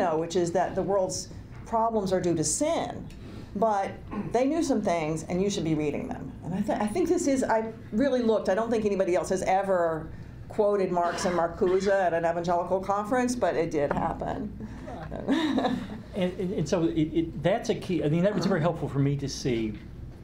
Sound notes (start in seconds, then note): 14.8 laughs